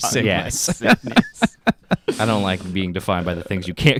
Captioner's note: laughing